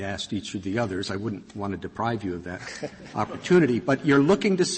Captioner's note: laughter